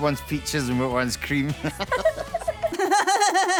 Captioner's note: both chuckle